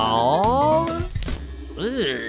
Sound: glitching noise

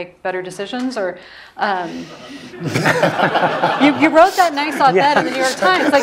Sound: laugh

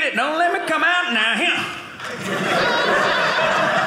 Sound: audience laughing

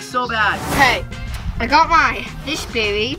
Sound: air whooshing

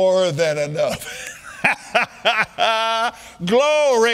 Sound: laughing

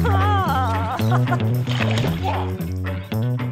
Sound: laughs

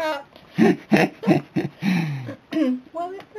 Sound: both laughing

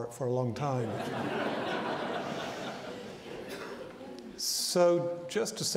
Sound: audience laughing

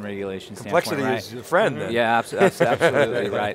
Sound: laughs

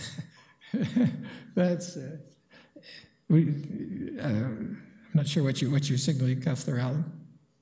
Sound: chuckling

